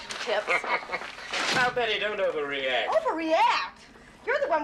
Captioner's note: Хихикает